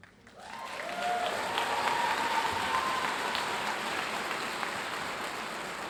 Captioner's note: audience cheering and applauding